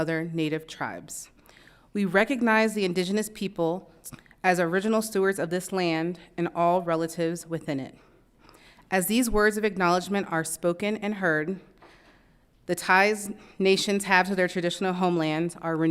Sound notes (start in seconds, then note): none